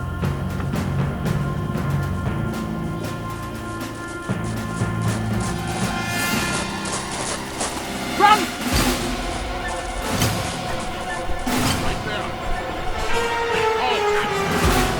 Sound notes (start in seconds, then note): 1.8 louder Footsteps